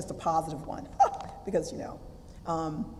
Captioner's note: laugh